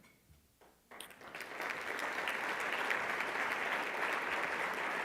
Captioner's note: audience applauds